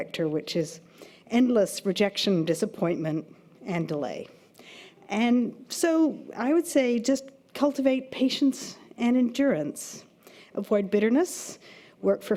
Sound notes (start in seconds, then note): none